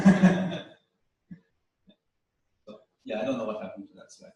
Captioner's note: pause